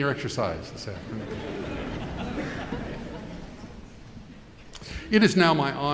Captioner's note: audience chuckling